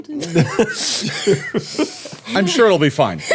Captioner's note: everyone laughing